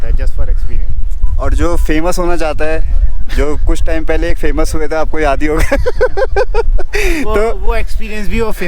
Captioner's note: laughs